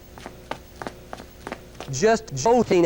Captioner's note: footsteps